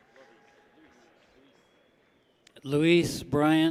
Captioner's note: people clap